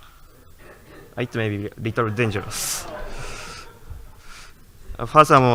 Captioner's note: light audience laughter